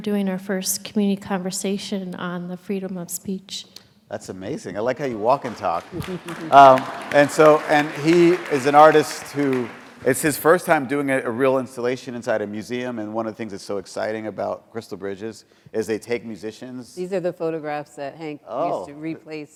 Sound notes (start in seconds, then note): 5.0 applause